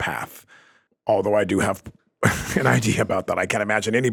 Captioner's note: laughs